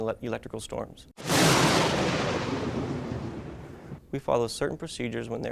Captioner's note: thunder claps